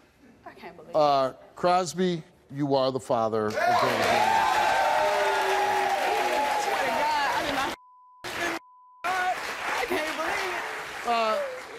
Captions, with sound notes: - I can't believe this. - Crosby, you are the father. (audience cheers and claps) - I swear to God and did not (beep). I can't even believe it.